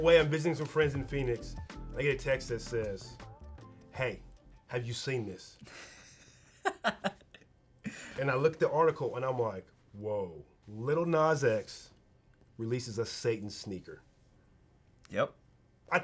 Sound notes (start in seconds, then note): 5.6 laughs